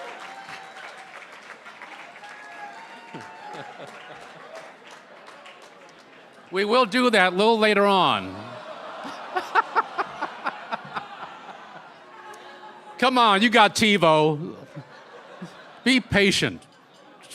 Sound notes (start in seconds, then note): 4.4 applause; 10.6 laughter